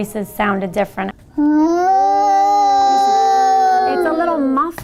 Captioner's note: children speaking and making sounds into tubes